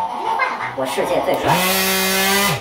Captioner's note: buzz